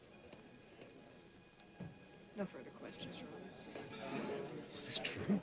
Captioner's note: crowd murmurs